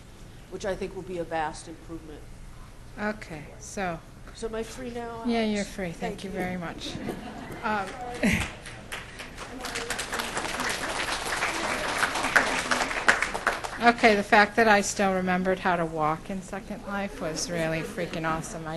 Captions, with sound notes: which I think will be a vast improvement. So, am I free now. - Yeah, you're free, thank you very much. (laughs) (crowd applauds) Okay, the fact that I still remembered how to walk in Second Life was really freaking awesome.